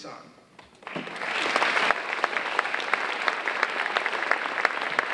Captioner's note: audience applauding